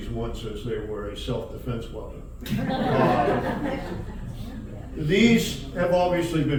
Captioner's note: audience Laughs